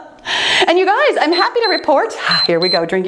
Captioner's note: laughs; timer beeps